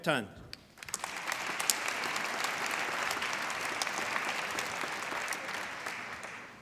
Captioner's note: applause